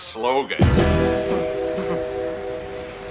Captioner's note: shivering